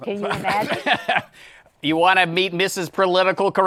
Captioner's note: laughs